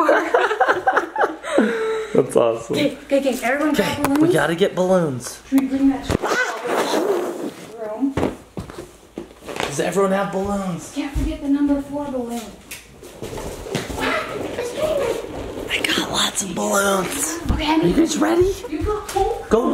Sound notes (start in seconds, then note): 0.0 laugh; 6.4 yelps; 13.4 balloons squeaking